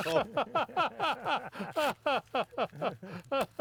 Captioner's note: laughing